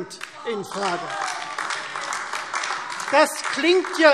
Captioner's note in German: Beifall Freie Demokraten